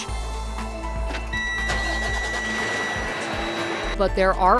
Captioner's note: truck engine starts